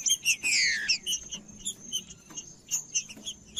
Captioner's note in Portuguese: trinca ferro cantando